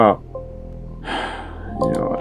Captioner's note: big sigh; notification ding